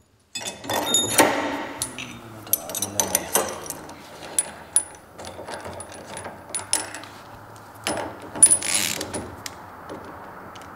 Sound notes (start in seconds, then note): 0.3 metallic clacking; 7.8 ratcheting